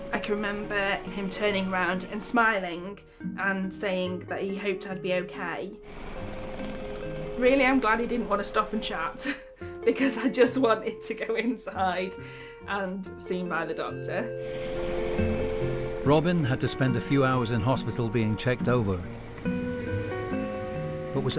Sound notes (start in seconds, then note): 5.8 helicopter whirring; 6.7 lighthearted music; 9.4 chuckles; 14.4 helicopter whirring; 14.5 lighthearted music; 19.2 helicopter whirring; 19.2 lighthearted music